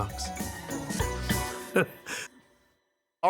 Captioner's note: chuckles